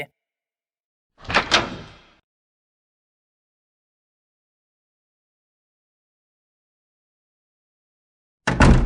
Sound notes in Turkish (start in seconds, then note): 1.2 Kapı açılış sesi